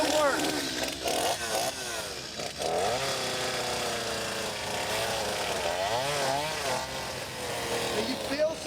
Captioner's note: chainsaw grinding